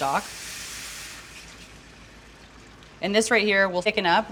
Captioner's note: stock sizzles